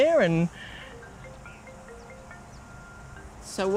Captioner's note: cell phone rings